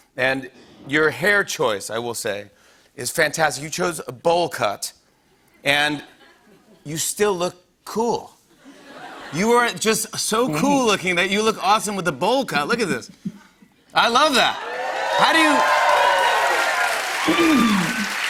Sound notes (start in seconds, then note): 8.4 light laughter; 14.3 cheers and applause